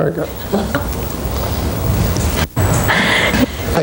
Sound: both laugh

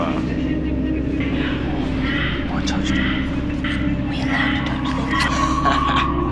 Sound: whispering

